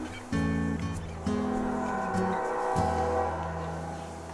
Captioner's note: train whistle in distance